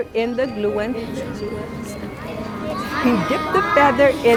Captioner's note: children murmuring